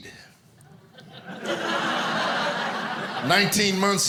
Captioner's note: audience laughing